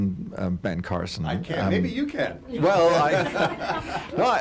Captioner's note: laughter